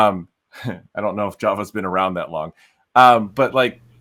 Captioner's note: laughs